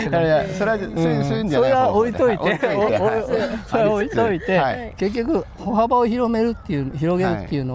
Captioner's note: laughs